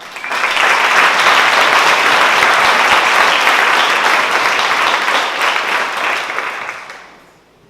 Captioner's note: applause